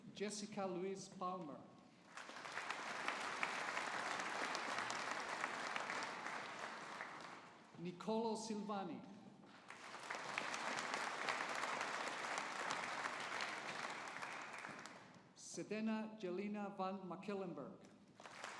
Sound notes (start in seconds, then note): 2.0 audience applauding; 9.5 audience applauding